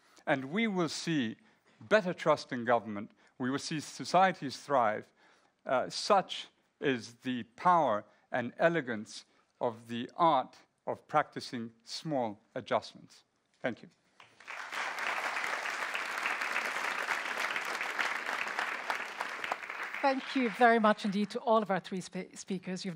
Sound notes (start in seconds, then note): 14.2 audience applauds